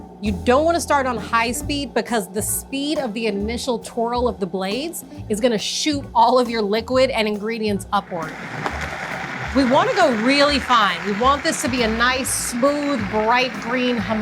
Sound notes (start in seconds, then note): 8.2 blender whirs